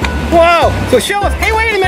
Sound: voiceover

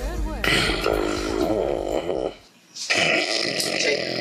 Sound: snoring

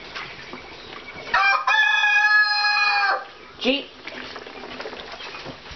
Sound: crowing

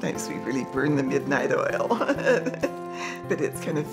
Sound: chuckles

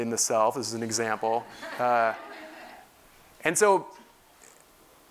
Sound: laugh

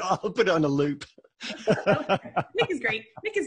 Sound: laughing

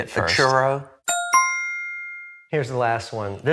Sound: bell dings

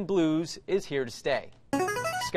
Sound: buzzer plays

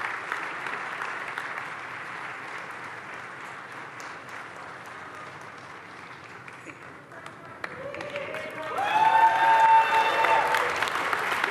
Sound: applause

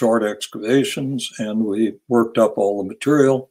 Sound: none

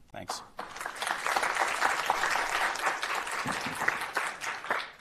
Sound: audience applauds

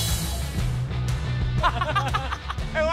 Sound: laughing

